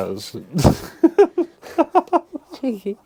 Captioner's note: laughing